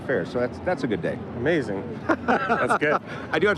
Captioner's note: laughs